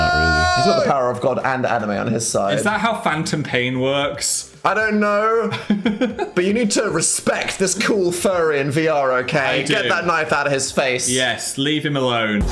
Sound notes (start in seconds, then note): 5.5 Phil laughs; 12.3 upbeat music